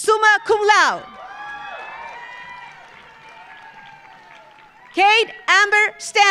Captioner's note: audience cheering; audience applauding